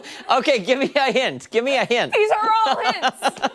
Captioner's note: laughter